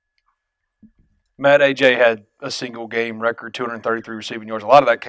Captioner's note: voiceover